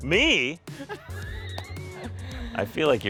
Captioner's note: everyone laughs